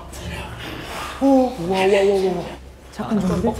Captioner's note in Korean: 몇몇의 놀란 음성